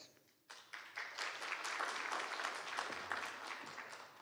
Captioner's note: applause